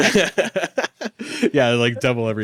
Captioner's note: laughs